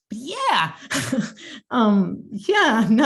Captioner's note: chuckling